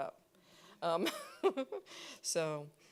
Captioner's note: every laughing